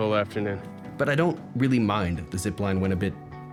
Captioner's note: narrating